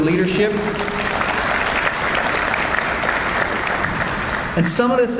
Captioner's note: audience applauds